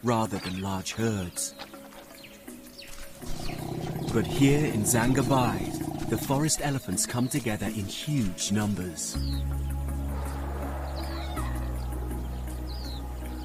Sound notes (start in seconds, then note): 3.9 birds chirping; 3.9 light music